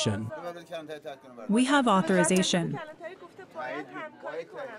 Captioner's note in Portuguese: falando persa